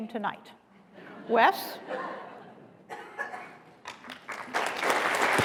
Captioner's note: applause